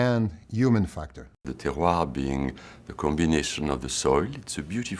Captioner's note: speaking french